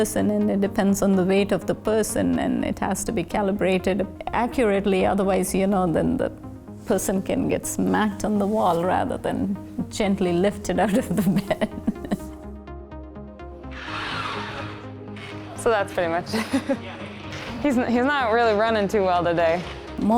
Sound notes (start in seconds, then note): 10.9 laughs; 13.6 robot whirs